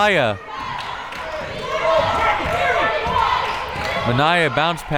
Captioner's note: crowd members shouting